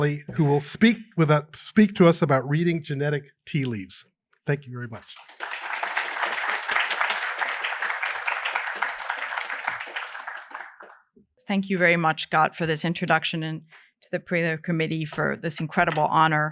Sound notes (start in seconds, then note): 4.9 applause